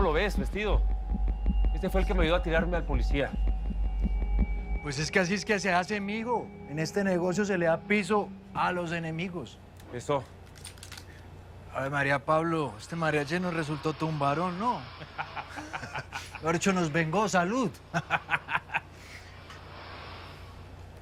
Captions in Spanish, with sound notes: ESTE FUE EL QUE ME AYUDÓ A TIRARME AL POLICÍA. - PUES ES QUE ASÍ ES QUE SE HACE, M'HIJO. EN ESTE NEGOCIO, SE LE DA PISO A LOS ENEMIGOS. - ESO. - ¡AVE MARÍA, PABLO! ESTE MARIACHI NOS RESULTÓ TODO UN VARÓN, ¿NO? [Risas] MEJOR DICHO, NOS VENGÓ. ¡SALUD! [Risas]